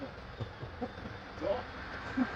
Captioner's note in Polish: śmiech